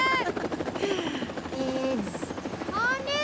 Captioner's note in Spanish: Risas